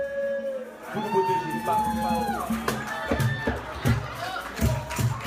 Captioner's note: crowd cheering